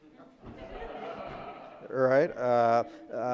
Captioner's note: audience laughing